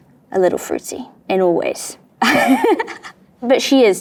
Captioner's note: chuckles